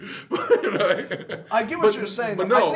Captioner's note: laughing